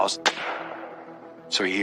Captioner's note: gunshot